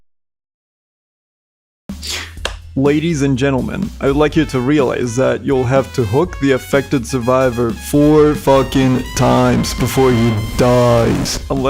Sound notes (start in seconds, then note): 2.4 claps